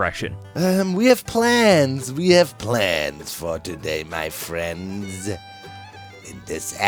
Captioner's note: as Palpatine